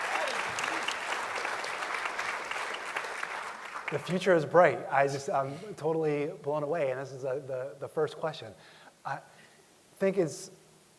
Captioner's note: applause